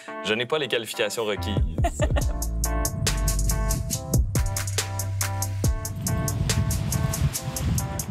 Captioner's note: laughs